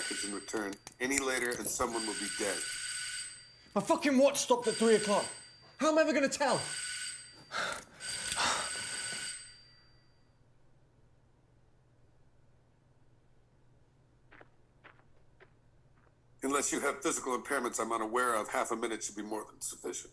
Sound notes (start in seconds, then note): 9.6 doorbell stops ringing; 14.2 footsteps walking away